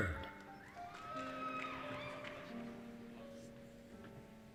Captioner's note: cheering